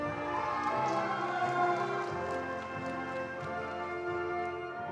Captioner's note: attendees applauding